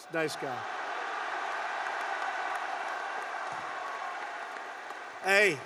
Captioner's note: applause